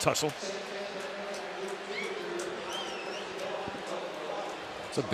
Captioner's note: pa announcement